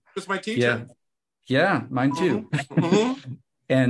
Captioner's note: laughs